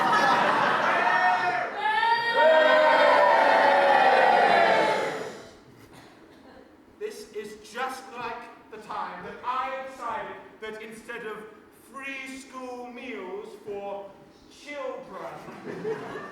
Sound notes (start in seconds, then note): 0.0 audience boos; 4.5 shushes them